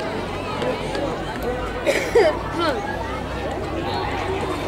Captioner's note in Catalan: Algú tossint